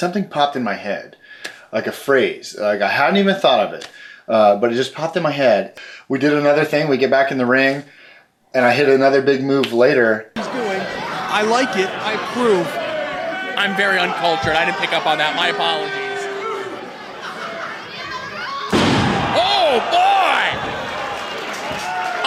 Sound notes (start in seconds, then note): 16.4 audience booing; 18.7 body slamming